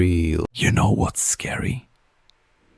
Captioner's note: whispers